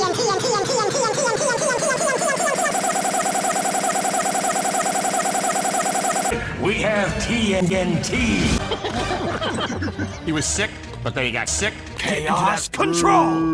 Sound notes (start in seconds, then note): 2.7 spaceship laser noises